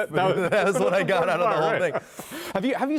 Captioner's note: laughter